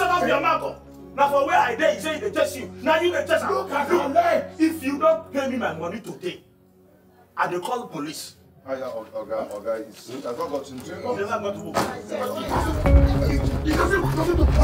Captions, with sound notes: (foreign language) - If you don't pay me my money today, I will call the police (foreign language) (intense music)